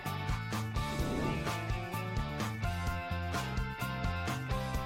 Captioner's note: upbeat music; air whooshing